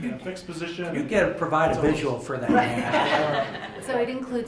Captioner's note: laughter